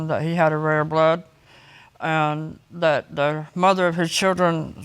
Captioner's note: none